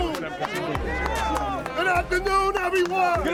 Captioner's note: crowd